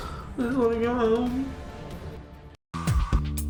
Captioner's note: sniffling